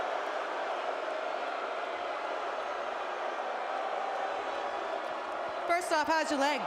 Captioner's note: applause